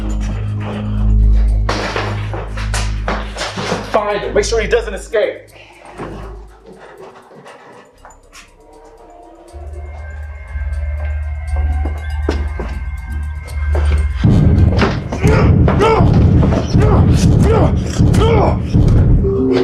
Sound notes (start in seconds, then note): 1.8 door opens; 15.1 grunts; 16.9 fist whacks